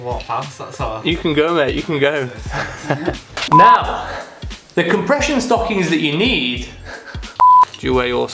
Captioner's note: laughter